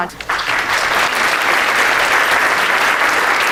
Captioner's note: applause